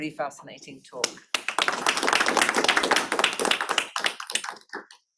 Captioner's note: applause